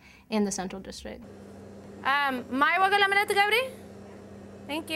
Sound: speaking Tigrinya

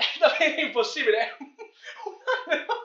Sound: nervous laughter

